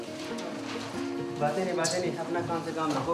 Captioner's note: foreign language spoken